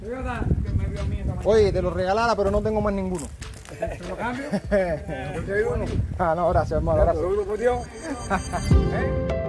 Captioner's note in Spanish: risas